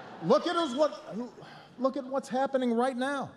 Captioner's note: laughter